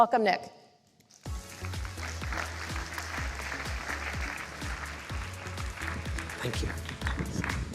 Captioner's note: applause